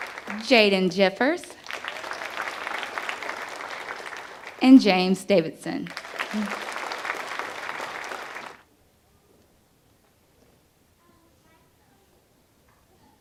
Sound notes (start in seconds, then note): 8.2 applause